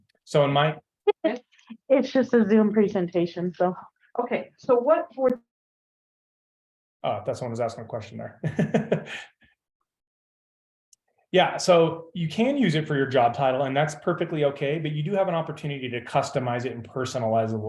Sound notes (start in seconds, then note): 8.4 laughs